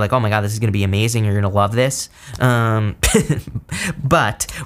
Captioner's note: instructor chuckles